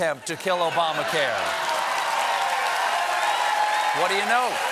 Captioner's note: cheers and applause